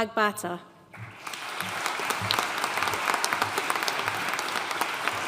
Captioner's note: audience applauding